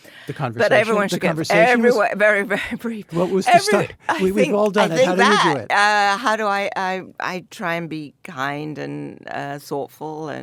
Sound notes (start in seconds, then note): 4.7 laughs